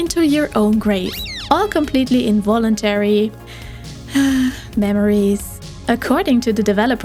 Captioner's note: sigh